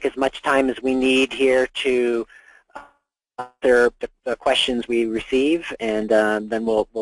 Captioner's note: audio disruption